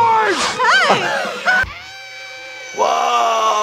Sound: screaming

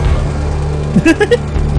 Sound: laughs

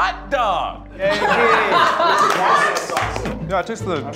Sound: cheering

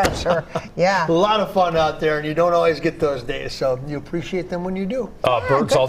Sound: laughter

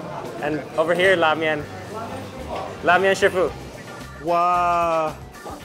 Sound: speaks in Chinese

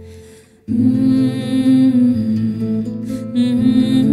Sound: humming

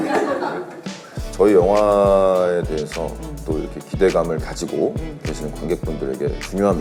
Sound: continuing on in a serious manner

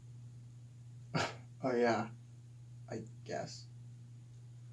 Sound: scoffs

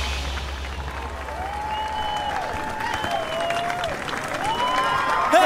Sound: applause

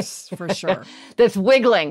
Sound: laughs

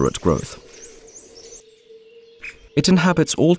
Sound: sounds of nature

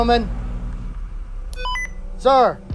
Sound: radio Beep

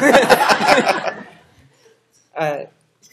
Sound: laughter

